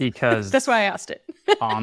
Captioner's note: chuckles